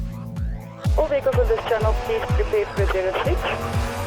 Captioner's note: over radio